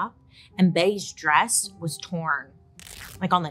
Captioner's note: fabric rips